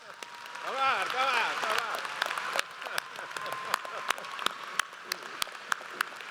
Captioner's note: audience applauds; laughs